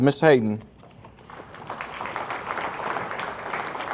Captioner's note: audience applauding